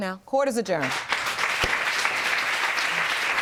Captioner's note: audience applauding